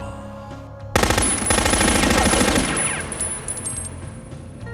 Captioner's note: machine gun firing